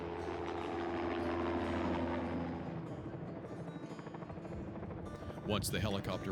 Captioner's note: sound of helicopter